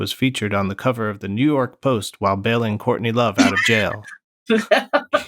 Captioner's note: laughter